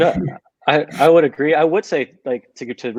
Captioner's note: all laughing